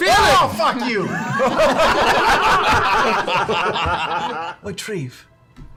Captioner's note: laughter